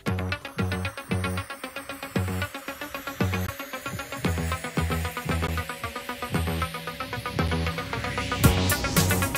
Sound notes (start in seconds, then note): 0.2 upbeat music; 2.2 car revs